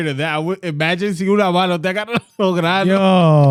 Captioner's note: speaking In Foreign Language